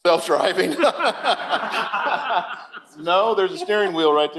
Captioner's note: laughter